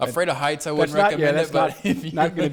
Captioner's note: laughs